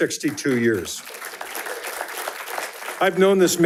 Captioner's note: attendees applauding